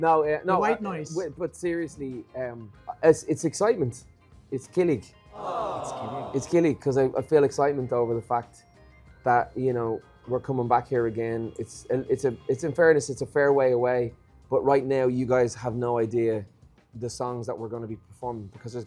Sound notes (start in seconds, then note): 5.4 aww sfx playing